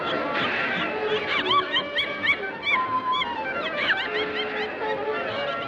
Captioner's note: animatronic laughing